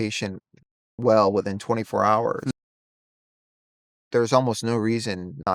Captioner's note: hums